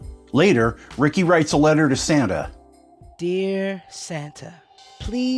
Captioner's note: none